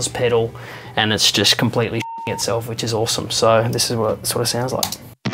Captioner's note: beep